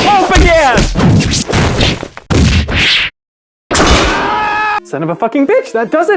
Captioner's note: the sounds of taking a beating